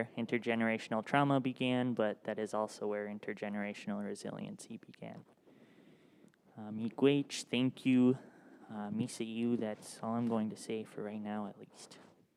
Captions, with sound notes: intergenerational trauma began. But that is also where intergenerational resiliency began. (speaks in Ojibwemowin) thank you, (speaks in Ojibwemowin), that's all I'm going to say for right now, at least.